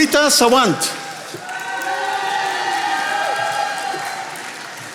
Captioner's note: attendees applauding